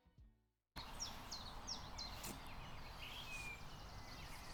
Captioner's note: birds chirping